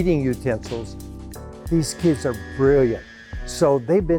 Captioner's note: table saw humming